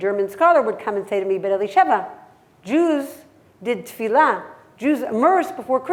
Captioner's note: hebrew